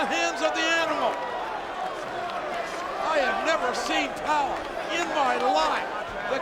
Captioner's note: applause